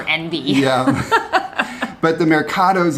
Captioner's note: both laugh